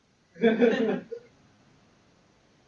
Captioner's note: laughter